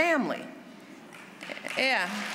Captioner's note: applause